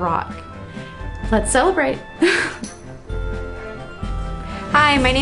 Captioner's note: laughter